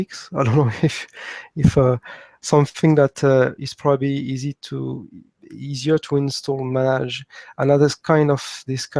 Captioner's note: laugh